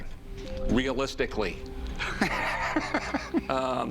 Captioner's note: laughs